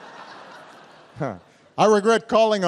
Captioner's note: laughter